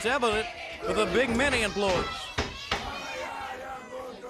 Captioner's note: crowd chatter